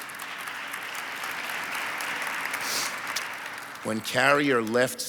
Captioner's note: audience applauds